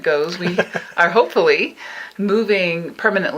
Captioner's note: laughing